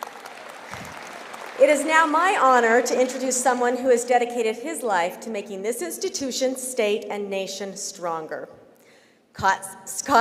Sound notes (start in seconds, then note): 3.2 applause